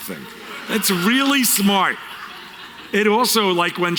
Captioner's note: audience Laughter